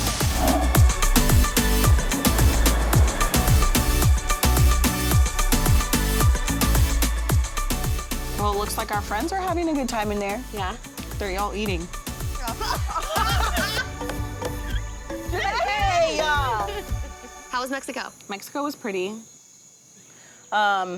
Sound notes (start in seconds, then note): 0.2 upbeat music; 12.4 laugh